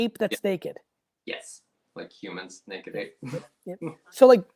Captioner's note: laughs